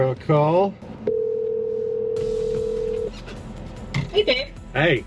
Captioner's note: phone ringing